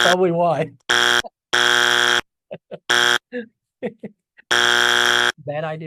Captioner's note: speaker laughs; buzzer blares; speaker continues laughing